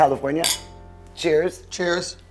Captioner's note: glasses clinking